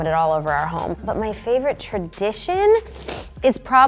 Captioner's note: sniffs